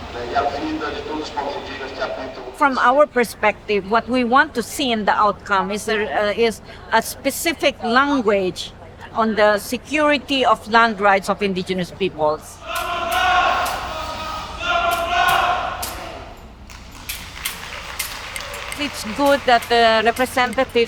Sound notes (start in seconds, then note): 13.0 people shouting in foreign language; 16.9 people applauding